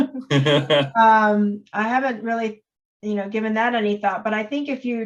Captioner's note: laughing